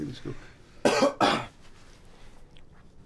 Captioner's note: coughs